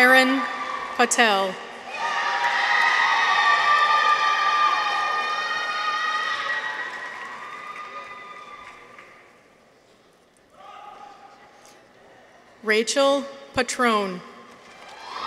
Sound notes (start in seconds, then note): 1.6 people cheer; 2.0 audience applauds